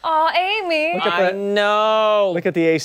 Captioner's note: laughter